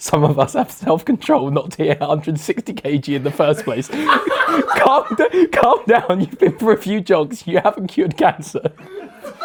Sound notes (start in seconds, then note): 3.1 laughs; 3.1 audience laughs; 8.5 laughs; 8.6 audience laughs